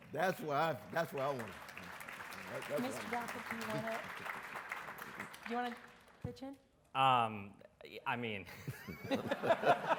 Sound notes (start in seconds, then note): 2.4 audience applauds